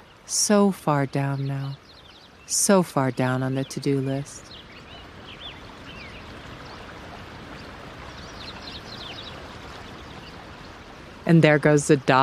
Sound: water gets louder

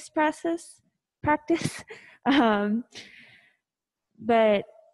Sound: chuckles

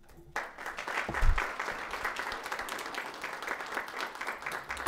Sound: audience applauds

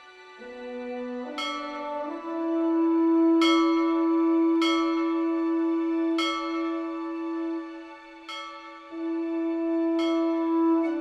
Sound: bell tolls

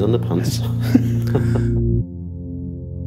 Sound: laughing

